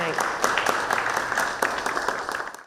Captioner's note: audience applauding